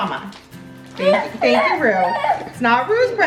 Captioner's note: wails